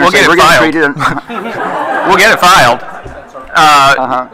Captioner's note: attendees laughing